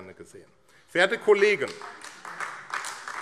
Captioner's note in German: Beifall AfD - Zurufe